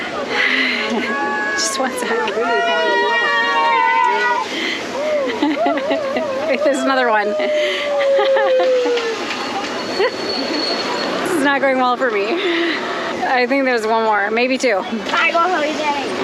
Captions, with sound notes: - Just one second. (cheering) (laughter) Wait. There's another one. (laughter) This is not going well for me. I think there's one more, maybe two. - Bye go, homie.